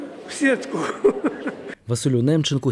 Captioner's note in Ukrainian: Сміється